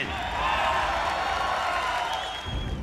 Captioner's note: loud cheering